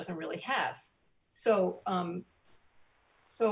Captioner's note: speaking in foreign language